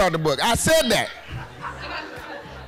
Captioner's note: laughing